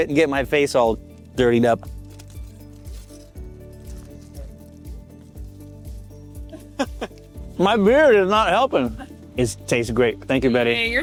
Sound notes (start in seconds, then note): 1.3 upbeat music; 6.5 chuckling